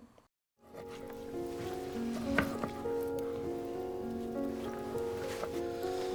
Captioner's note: soft music; insects chirping